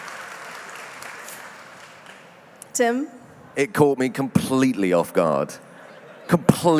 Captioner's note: cheering and applause